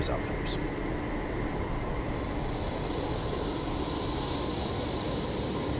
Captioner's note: wind rushing